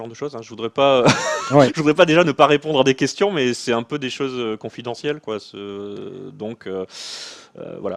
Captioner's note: laughs